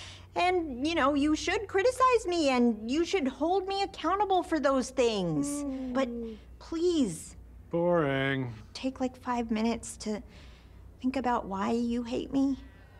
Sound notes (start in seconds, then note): 5.4 yawns mockingly